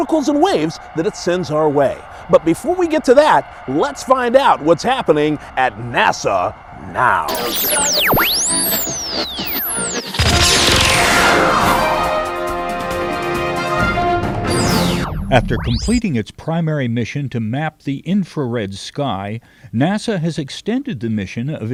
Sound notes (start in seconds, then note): 7.4 sound Effects